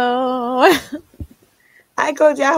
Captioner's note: laughing